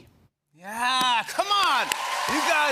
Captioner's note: cheers and applause